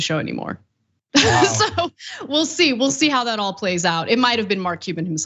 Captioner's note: laugh